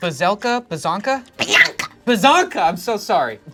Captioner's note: screeches